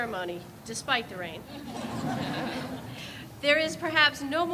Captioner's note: audience laughs